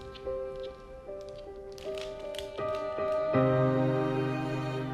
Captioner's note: dog footsteps